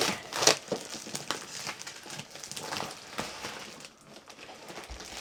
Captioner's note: plastic wrap crinkling